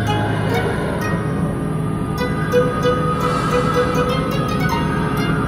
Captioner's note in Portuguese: Respiração